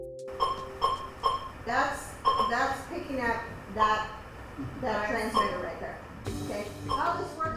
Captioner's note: beeping